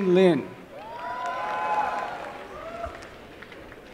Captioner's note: applause and cheering